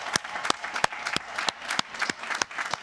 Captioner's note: applause